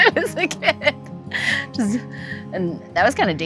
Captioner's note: laughs